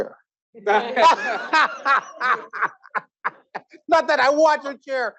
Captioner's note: audience laughing